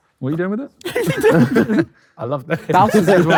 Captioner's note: group laughs; group laughing